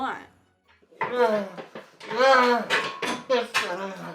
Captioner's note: Longbutt groans